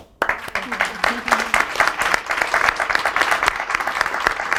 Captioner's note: audience applauds